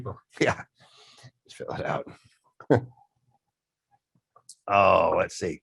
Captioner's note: chuckles